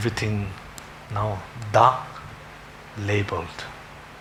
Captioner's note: foreign language